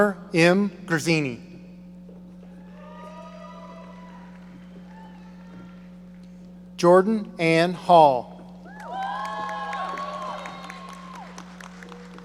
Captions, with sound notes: Connor M. Guerzini. (audience applauding) Jordan Anne Hall. (audience cheering)